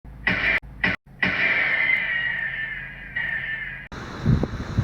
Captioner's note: gunshot echoing